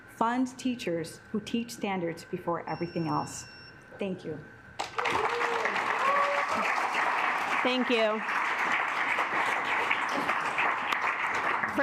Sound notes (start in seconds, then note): 2.0 alarm beeping; 4.8 assembly clapping; 8.4 assembly clapping